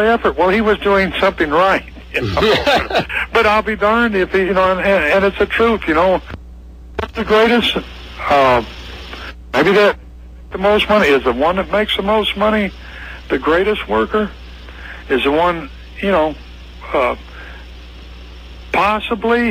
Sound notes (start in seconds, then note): 1.8 laughs